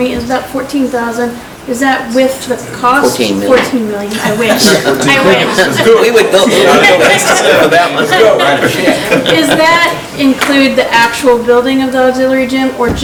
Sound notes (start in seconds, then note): 6.6 laughing